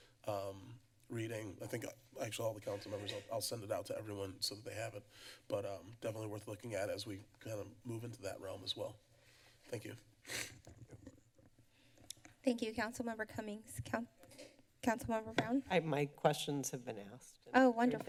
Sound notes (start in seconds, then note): 10.2 rustling sound; 12.4 click sound; 15.3 tap sound